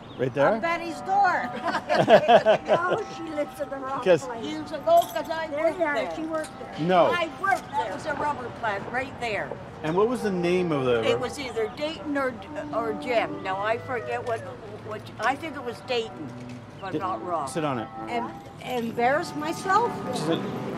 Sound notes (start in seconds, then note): 1.4 laughing